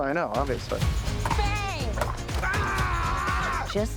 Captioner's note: exclaims